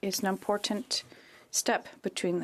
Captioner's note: speaking French